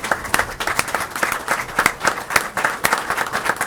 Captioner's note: applause